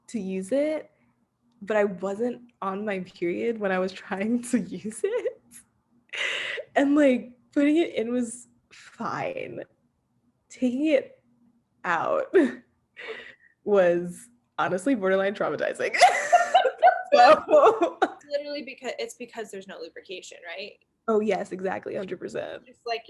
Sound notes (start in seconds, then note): 16.0 laughing